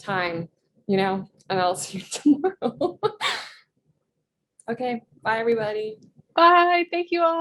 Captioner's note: laughs